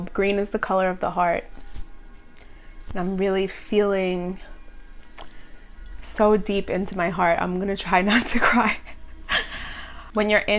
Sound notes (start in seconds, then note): 9.3 laughs